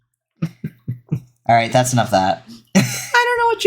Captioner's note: snorts